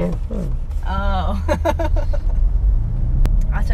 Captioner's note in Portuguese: risos